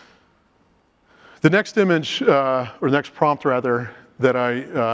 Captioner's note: inhales